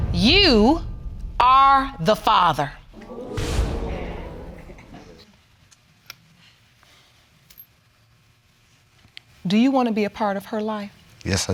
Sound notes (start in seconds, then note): 2.9 audience exclaiming